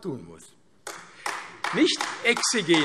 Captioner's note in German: Beifall AfD